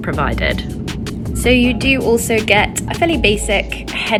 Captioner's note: engine humming